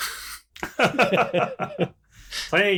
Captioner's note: laughter